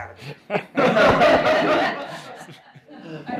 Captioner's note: laughter